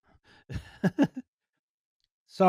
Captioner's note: laughs